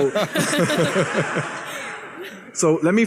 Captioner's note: laughter